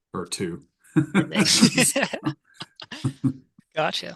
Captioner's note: both laughing